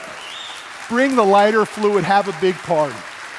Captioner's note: cheers